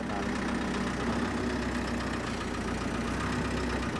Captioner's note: engine purring